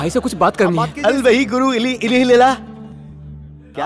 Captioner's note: Speaking in Arabic